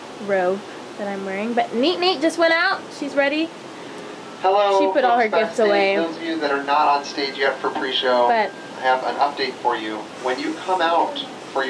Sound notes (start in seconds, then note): 3.1 voice on intercom